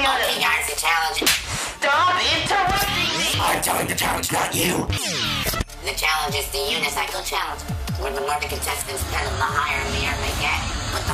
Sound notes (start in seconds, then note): 1.2 slap